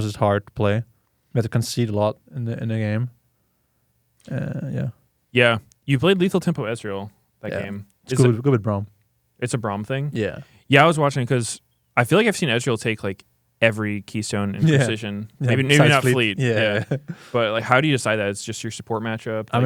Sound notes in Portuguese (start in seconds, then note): 16.4 risos